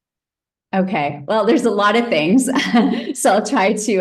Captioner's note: chuckles